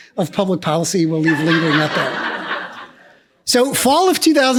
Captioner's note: laughs